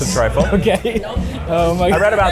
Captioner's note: laughing